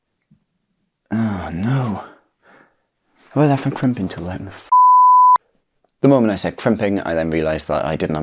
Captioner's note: edit sound